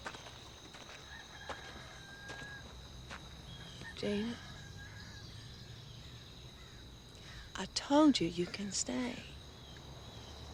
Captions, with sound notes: (birds chirping) (rooster crowing in distance) Gina. I told you, you can stay.